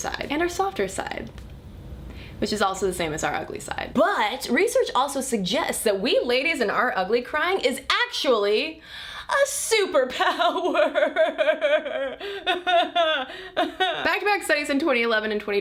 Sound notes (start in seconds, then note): 11.1 starts crying